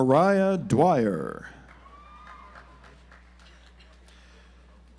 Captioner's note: audience applauds